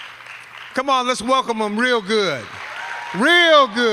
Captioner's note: applause; applause